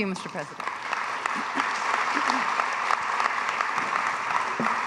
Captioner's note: audience applauding